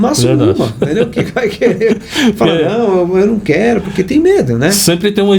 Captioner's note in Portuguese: risadas